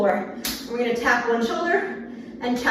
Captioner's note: hand slaps arm